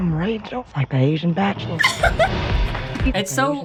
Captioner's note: laughs